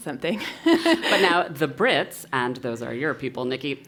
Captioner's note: laugh